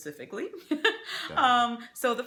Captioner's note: laughs